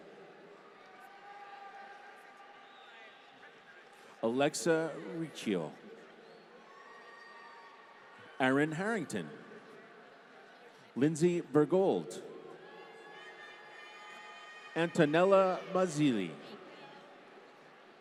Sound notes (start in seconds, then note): 0.6 applause; 5.8 applause; 13.4 applause